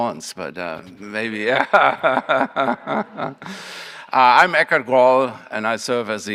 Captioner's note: laughs